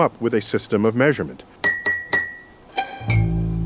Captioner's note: metal clinking